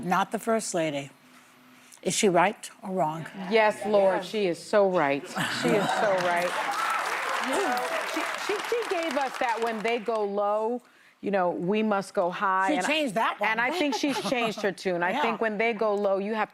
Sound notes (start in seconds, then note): 9.3 applause